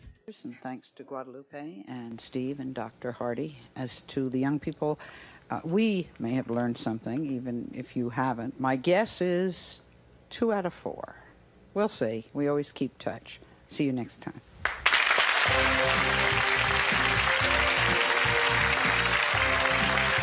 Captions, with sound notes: - Thanks to Guadalupe and Steve and Dr. Heide. As to the young people, we may have learned something, even if you haven't. My guess is two out of four. We'll see, we always keep touch. See you next time. (audience applauding) (upbeat music)